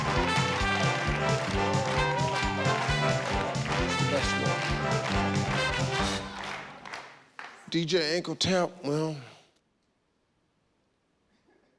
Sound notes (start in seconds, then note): 0.0 audience cheering; 0.0 cheerful theme music; 1.7 audience clapping on beat